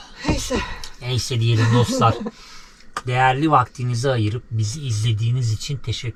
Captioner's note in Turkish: kahkaha